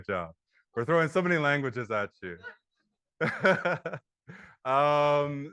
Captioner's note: laughs